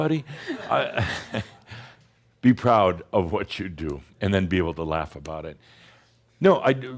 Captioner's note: more chuckles